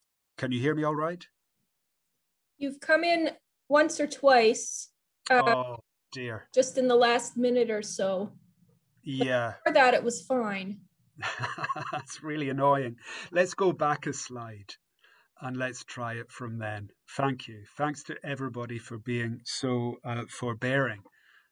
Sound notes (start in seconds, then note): 11.2 laughs